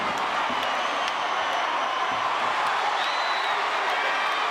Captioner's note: audience cheers